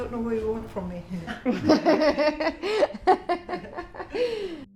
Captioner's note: laughs